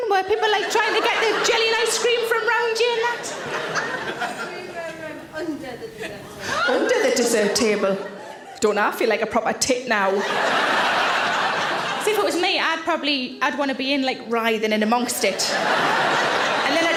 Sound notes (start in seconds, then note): 6.4 audience member gasps; 10.1 audience laughs; 15.2 audience laughs